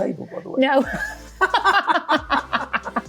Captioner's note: laughing